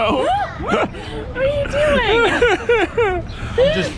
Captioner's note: laughing